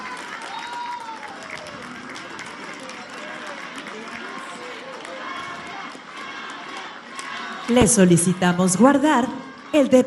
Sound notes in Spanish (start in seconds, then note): 7.6 aplausos